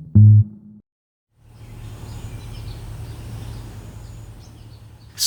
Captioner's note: birds chirping